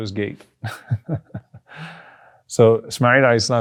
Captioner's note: chuckles